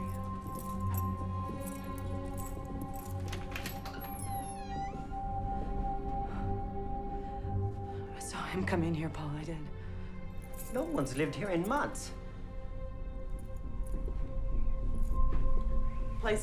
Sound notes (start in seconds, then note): 0.0 keys jangling; 3.1 door latch clicks; 6.0 suspenseful music; 12.7 suspenseful music